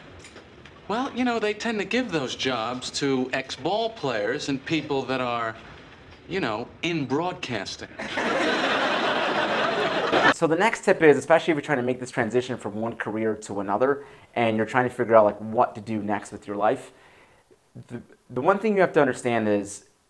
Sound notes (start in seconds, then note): 8.0 laughter